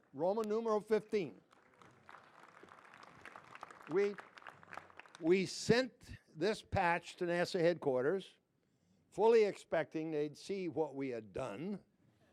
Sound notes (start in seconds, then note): 0.9 applause